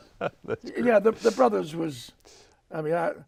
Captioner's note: laughs